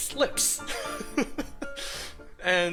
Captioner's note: laughter